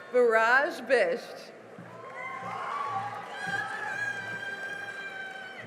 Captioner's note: cheering and applause